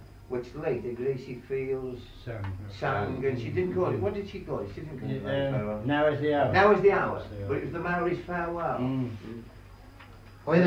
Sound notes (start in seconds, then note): none